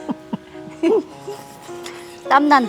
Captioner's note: both laughing